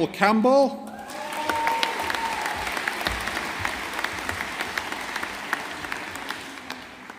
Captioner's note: audience applauding